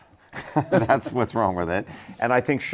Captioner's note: laughter